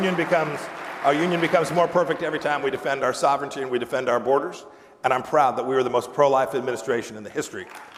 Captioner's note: applause